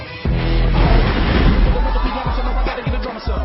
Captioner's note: crowd cheering